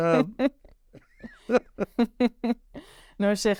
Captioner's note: laughter